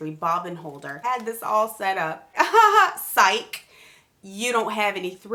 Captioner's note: laughs